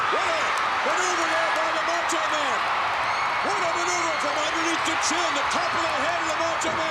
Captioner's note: crowd screaming drowns out commentators